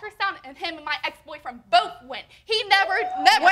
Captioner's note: audience hooting